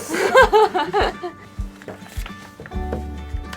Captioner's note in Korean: 웃음